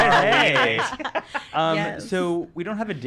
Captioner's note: laughing